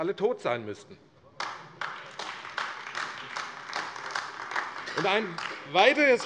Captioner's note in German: Heiterkeit und Beifall AfD